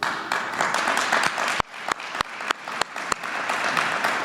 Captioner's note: applause